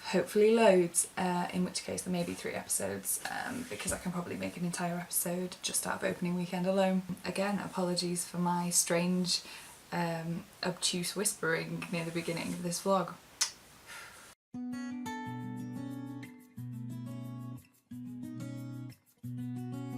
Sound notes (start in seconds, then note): 13.4 blows kiss